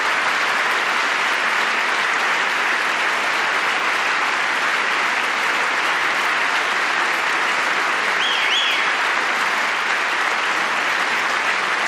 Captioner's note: applause